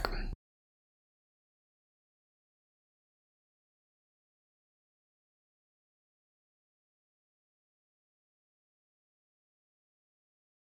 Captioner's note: blank Audio